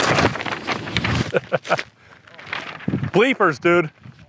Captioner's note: laughs